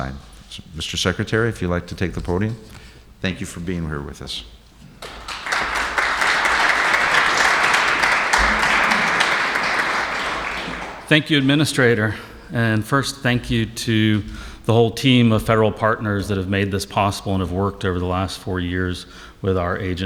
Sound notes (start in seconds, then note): 5.0 applauses